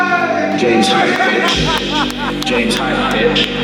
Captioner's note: laughs